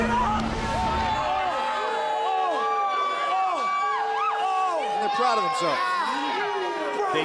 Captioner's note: crowd cheering